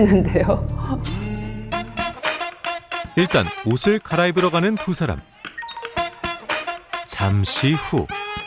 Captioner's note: voiceover